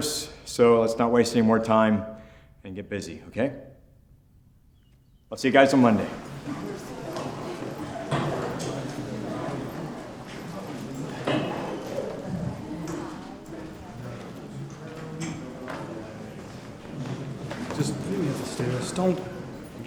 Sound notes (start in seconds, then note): 7.6 students chattering